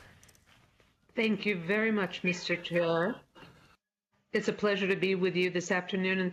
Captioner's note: speaking French